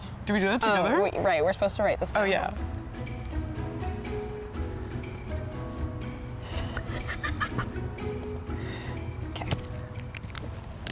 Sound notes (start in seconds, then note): 2.5 bright music; 6.6 laughs